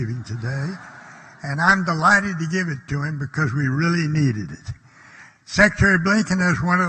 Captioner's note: laughter